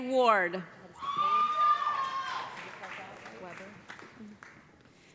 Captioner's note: cheers and applause